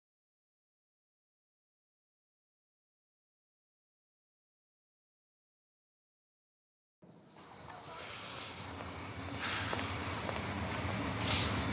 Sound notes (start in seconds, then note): 8.2 inhales